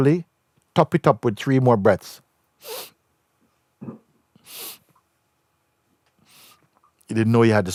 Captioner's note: inhales three times